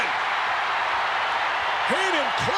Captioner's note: crowd roaring